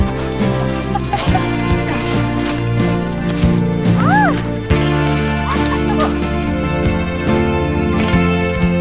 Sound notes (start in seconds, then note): 3.7 squeals